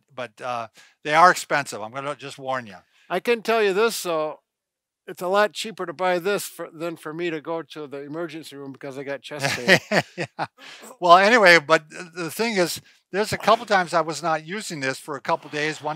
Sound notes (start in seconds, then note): 9.4 laughing